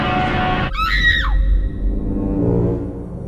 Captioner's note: screams